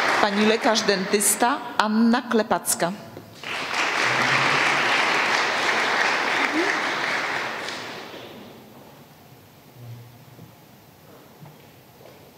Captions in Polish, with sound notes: Pani lekarz dentysta Anna Klepacka. [oklaski]